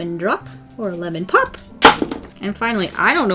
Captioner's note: candy bangs on table